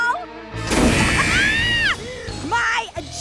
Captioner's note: laughs